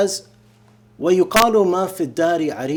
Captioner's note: speaking arabic